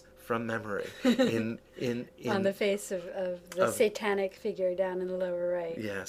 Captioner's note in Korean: ㅋㅋ